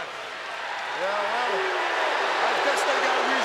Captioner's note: audience booing